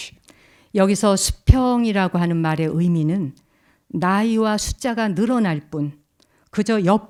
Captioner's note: speaking in Korean